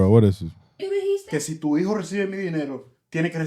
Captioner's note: speaking In Foreign Language